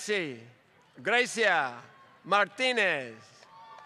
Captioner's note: applause